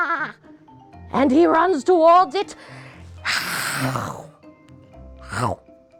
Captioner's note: mimics crunching